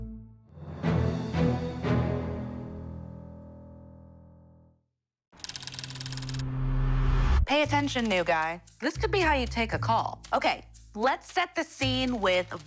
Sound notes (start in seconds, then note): 0.0 triumphant music; 4.8 text trilling; 6.2 suspenseful music